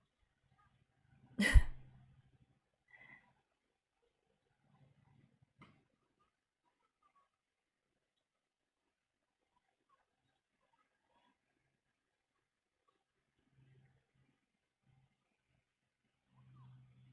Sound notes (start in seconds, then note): 1.4 chuckles